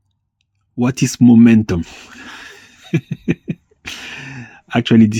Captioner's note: laughs